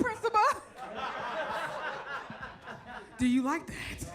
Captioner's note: audience laughs